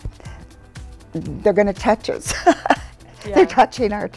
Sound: laughs

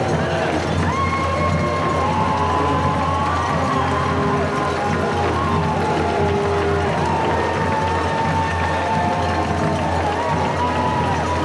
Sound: cheering

